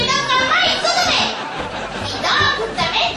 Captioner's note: laughter